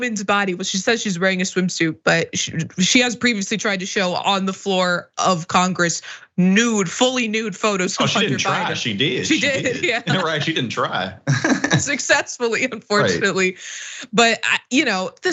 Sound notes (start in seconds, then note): 7.8 laugh